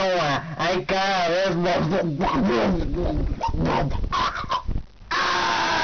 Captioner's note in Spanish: se ahoga